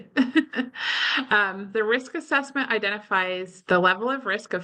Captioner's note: laughs